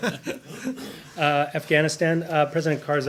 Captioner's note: laughter